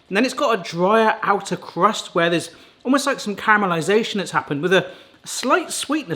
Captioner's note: none